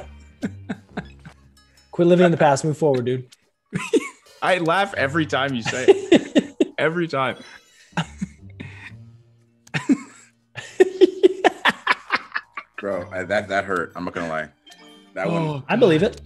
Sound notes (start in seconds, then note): 9.7 laugh